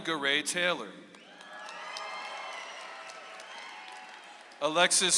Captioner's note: audience applauds